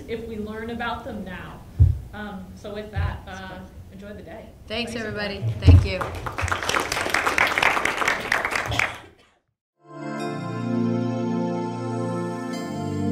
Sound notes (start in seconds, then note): 5.7 clapping; 9.8 gentle music